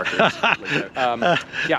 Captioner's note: laughs